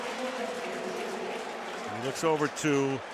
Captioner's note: announcer on pa